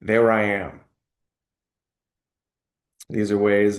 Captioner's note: pause